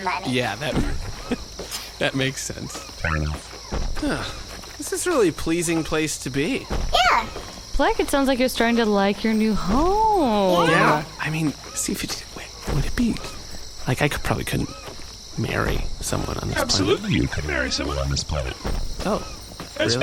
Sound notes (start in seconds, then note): 0.7 laughs; 5.0 sighs happily; 10.0 sing-song; 12.0 whispering